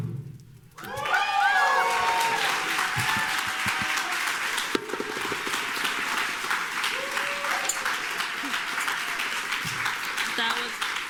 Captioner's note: cheers and applause